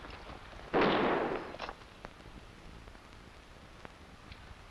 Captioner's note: gunshots blasting